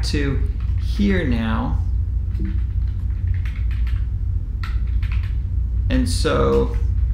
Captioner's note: keyboard typing sound